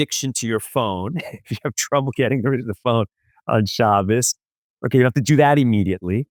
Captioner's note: laughs